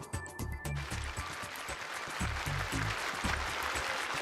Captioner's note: applause